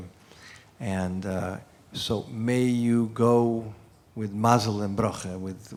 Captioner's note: non-english speech